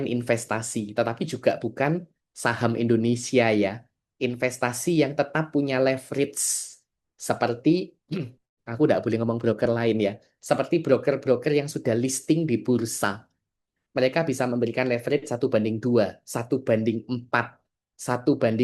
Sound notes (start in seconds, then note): 8.1 berdehem